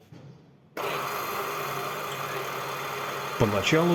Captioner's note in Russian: Работает мощное промышленное оборудование